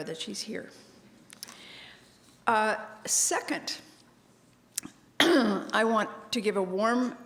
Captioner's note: cough